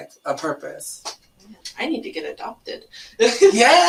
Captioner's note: laughs